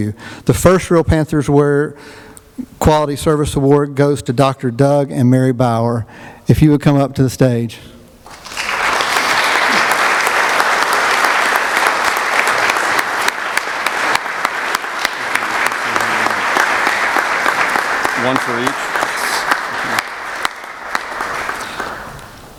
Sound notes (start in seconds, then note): 8.2 applause